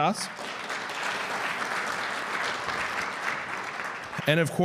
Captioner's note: audience clapping